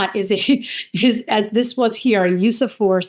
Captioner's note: chuckles